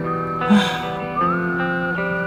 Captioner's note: A long sigh